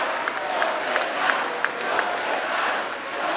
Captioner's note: cheering and applause